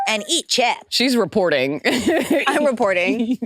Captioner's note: laughs